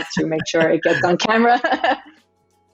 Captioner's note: laughing; laughs; gentle music